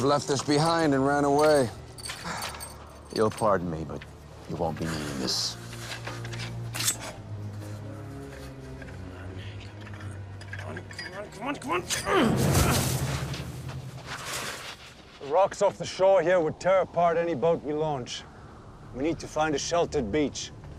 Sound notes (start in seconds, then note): 7.0 knife scraping; 7.0 ominous music